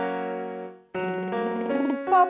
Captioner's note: slow piano music; lip trilling